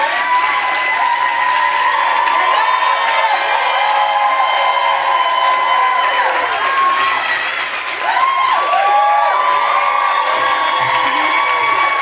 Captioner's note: cheers and applause